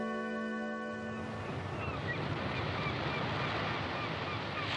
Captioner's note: seagulls crying